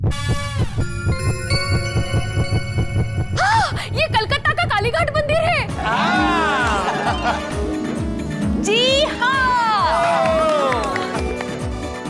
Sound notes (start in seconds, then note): 0.2 suspenseful music plays; 9.4 cheering